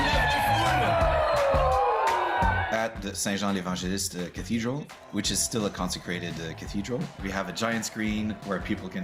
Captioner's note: cheers and Applause